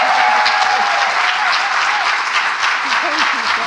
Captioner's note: cheers and applause